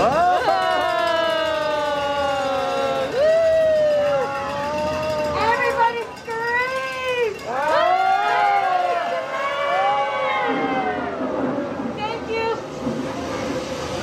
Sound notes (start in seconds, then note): 0.0 and best friend go "oooohh!!" and "woooo!"; 7.0 patrons scream